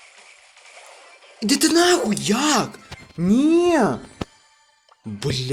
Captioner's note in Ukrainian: ахахаах